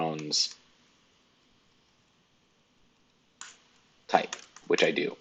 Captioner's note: keyboard keys clicking